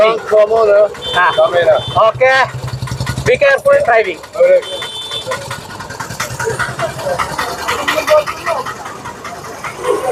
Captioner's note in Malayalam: പൊട്ടിച്ചിരി